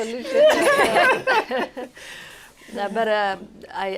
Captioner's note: laughter